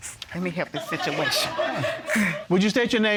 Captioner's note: audience laughing